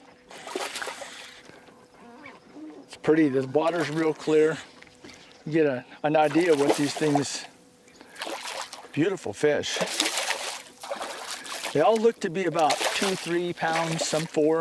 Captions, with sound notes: [splash] it's pretty this water is real clear you will get an idea what these things beautiful fish [splash] they look to be 2..3 pounds some four...